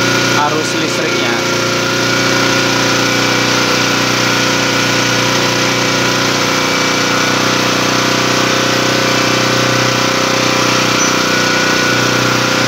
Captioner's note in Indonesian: bunyi mesin